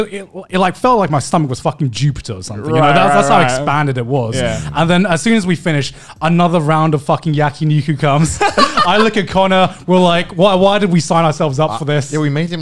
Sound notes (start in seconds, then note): 8.3 laughing